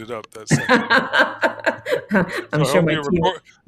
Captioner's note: laughing